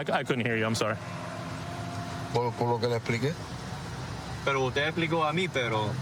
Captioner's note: speaking spanish